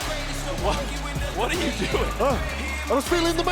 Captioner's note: chuckling